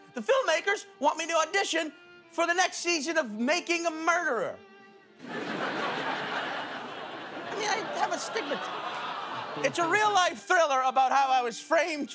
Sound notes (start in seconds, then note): 5.2 laughter; 7.6 audience awws